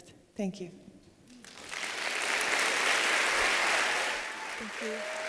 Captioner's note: applause